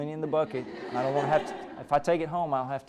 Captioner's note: laughter